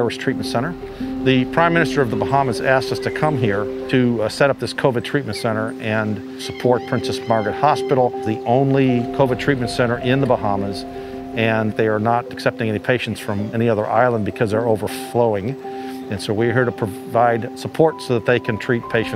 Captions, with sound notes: Throughout the islands, there's no movement. Everything's shut down now. [SIREN SOUNDING] Rather strange on the streets-- seeing these beautiful city streets utterly devoid of people.